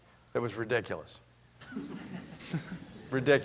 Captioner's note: laughter